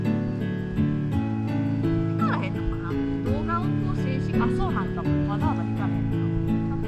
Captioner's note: laughs